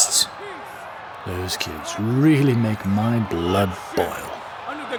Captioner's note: one voice grows louder above the crowd